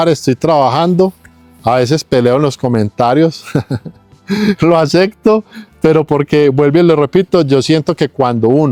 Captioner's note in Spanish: risas